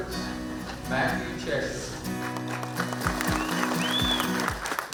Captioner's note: everyone applauds